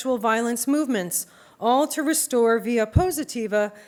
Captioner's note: non-english speech